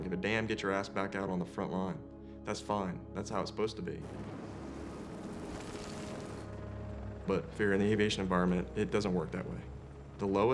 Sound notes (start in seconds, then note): 4.0 wind whipping; 4.6 sand sprinkling